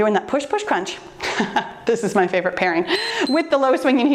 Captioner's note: timer beeps